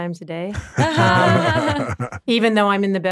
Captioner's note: all laughing